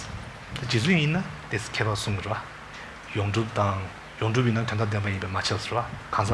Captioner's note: speaking in foreign language